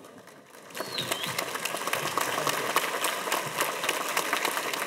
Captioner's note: audience applauding